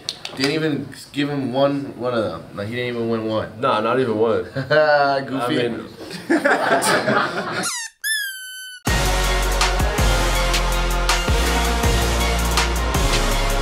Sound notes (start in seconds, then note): 6.1 all laugh; 6.1 chuckles; 7.6 toy squeaks; 8.7 upbeat music